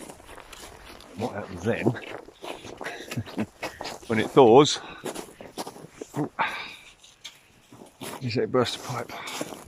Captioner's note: chuckles